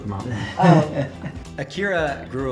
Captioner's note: laughs